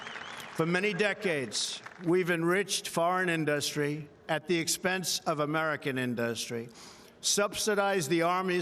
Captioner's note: cheering